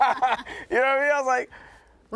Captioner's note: laughing